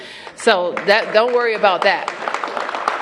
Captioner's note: applause